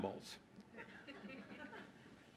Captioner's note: laughter